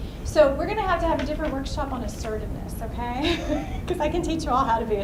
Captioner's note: laughs